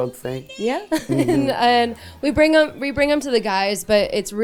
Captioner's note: laughs